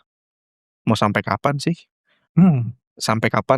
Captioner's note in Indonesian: berdehem